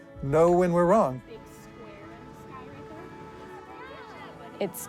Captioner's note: people chattering indistinctly